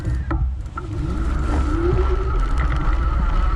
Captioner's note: bike whirring